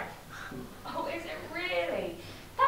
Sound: sarcastically

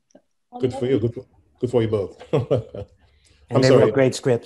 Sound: laughs

